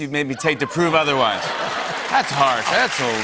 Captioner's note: cheers and applause